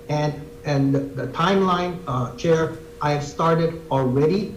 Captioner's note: none